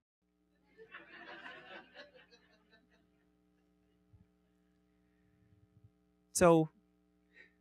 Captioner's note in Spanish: Risas